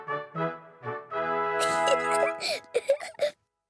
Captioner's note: giggles